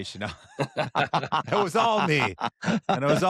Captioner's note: laughter